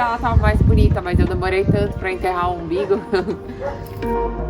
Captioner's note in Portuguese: risos